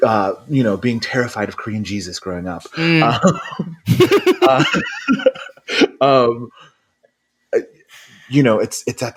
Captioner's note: laughs